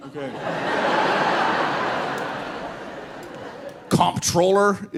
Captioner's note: audience laughing